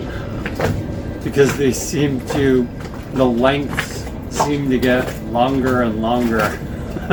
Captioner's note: chuckles